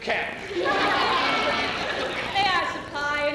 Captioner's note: women cheering